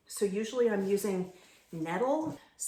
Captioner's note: none